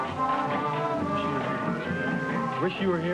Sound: whispering

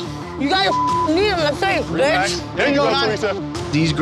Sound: beep

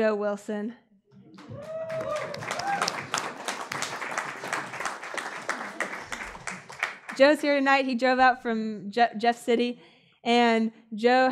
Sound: applause

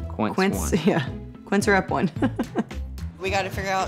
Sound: laughs

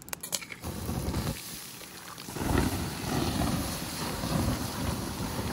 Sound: water being poured onto a fire

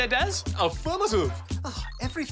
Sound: grunts; sighs

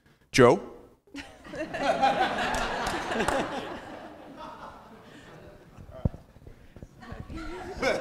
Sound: applause; laugh; laugh

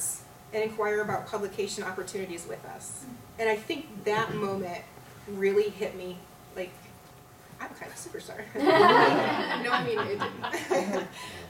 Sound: laughter

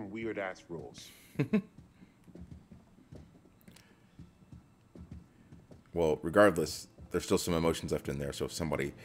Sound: laugh

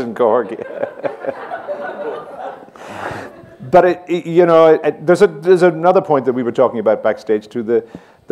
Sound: laughs

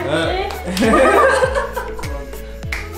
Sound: laughs

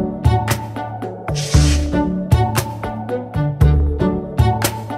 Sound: upbeat music; screen whooshing

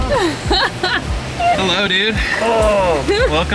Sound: giggling; grunts

